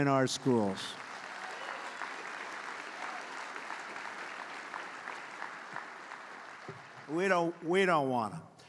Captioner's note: applause